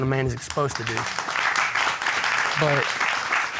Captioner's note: applause